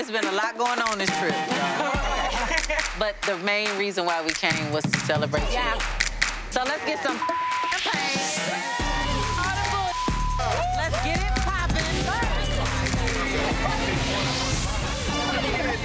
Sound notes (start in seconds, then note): 7.1 beep; 12.9 dramatic music